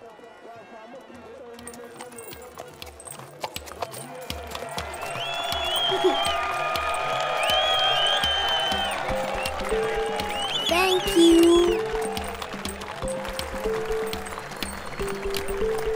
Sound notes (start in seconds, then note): 2.8 horse hooves tapping; 4.8 crowd applauding; 4.8 crowd cheering